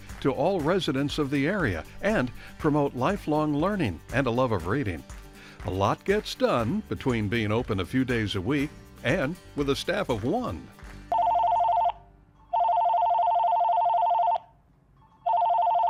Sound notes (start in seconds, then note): 12.5 phone rings